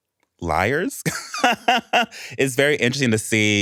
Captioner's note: laughs